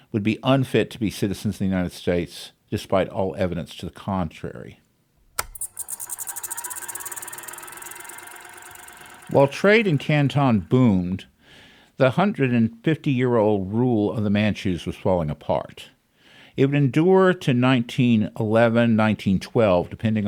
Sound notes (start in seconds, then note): 5.3 sound effect: film projector